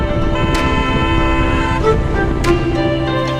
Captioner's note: honking